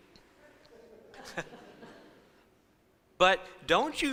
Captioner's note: chuckles